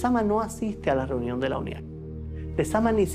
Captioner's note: speaking Spanish